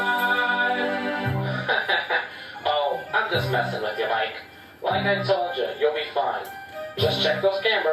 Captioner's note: chuckles